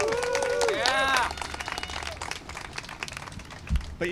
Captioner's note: applause and cheering